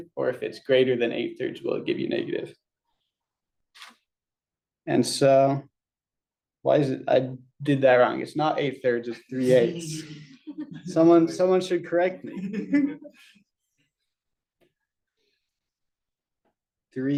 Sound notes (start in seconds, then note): 9.8 laughter